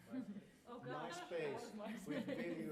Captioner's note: laughter